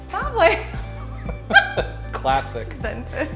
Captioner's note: laughs